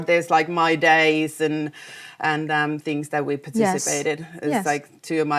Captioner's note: none